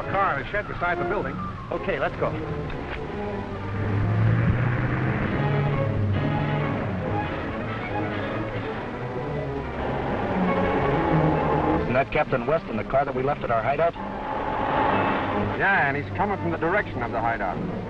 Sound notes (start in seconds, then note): 2.8 tense music; 4.2 car rumbling